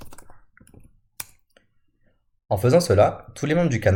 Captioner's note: click